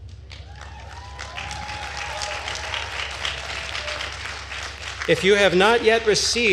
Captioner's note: attendees cheering and applauding